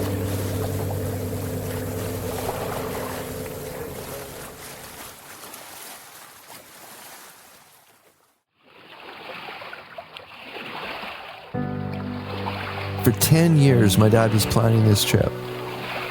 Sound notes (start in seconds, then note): 8.3 paddling sounds